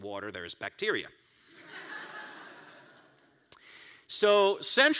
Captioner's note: crowd laughs